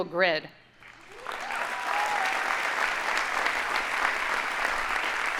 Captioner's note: audience applauding